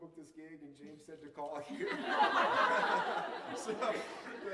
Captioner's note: laughter